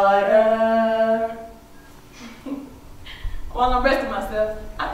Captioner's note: laughs